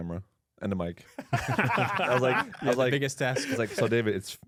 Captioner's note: laughs